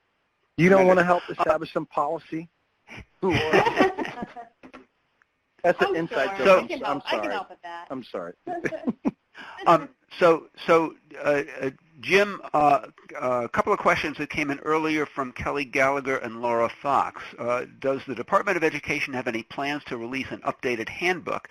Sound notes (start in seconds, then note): 3.0 everyone laughs; 8.4 giggles